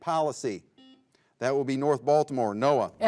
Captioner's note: buzzer beeps